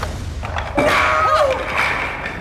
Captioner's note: blocks falling; thunder crashing